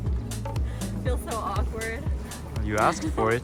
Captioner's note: laughing